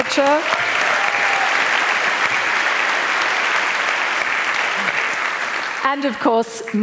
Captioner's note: applause